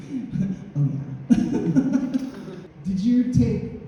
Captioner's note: laughing